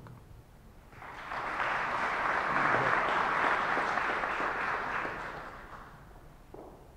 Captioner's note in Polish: oklaski